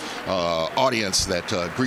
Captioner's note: applause